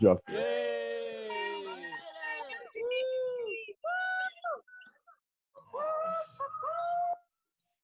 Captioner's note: cheers